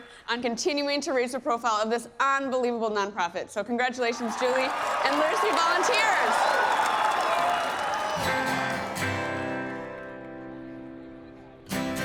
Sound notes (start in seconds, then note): 6.8 crowd cheering; 8.2 gentle guitar music